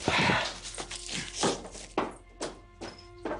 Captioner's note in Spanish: Toques en la puerta